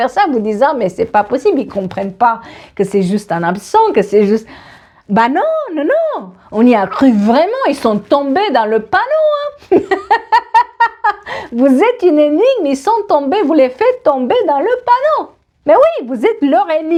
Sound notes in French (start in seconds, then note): 9.6 rires